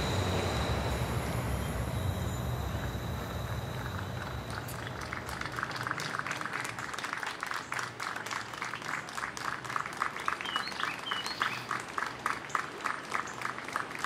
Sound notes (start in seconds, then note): 3.7 people applauding